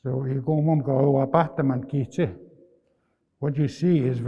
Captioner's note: speaking in Nêhiyawêwin